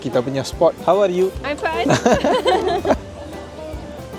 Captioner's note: laugh